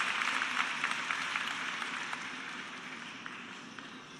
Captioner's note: applause